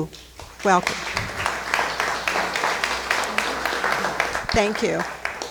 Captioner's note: crowd clapping